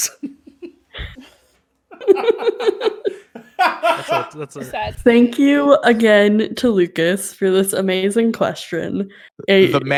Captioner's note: everyone laughs